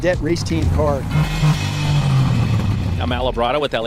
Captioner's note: police vehicle engine roaring